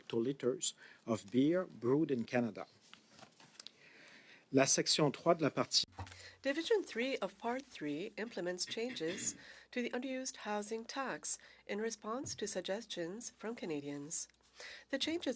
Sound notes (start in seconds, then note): 8.3 speaking French